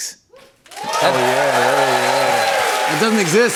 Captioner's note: cheers and applause